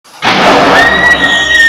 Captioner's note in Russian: гром; крики с улицы